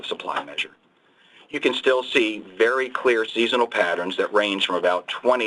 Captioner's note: clicking sound